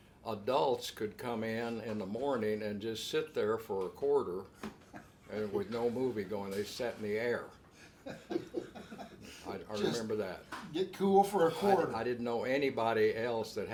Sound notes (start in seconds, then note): 7.8 laughing